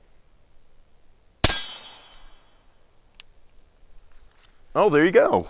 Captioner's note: gunshot